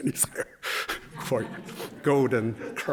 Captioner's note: laughter